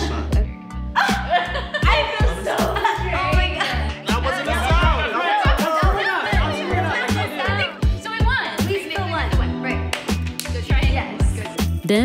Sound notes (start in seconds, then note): 0.9 laughing; 6.1 group chattering; 9.8 clap hands